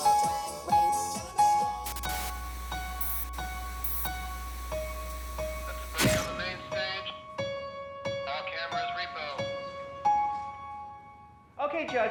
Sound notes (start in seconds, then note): 0.0 theme music; 2.3 static